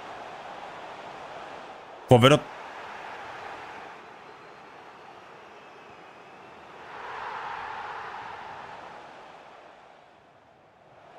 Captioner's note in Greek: χειροκρότημα